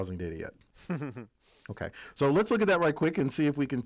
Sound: laugh

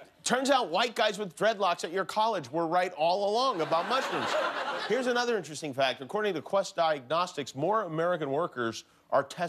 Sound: laughter

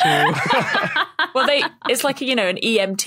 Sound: laugh

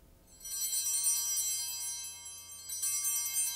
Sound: bells ringing

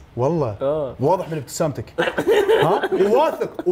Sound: laughs 😈

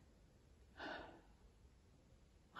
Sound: sighs

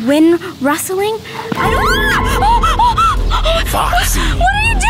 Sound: eerie music; screaming

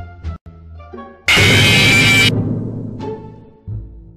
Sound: jumpscare

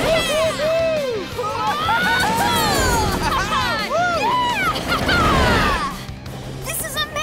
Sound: cheering

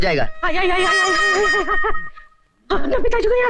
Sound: groaning

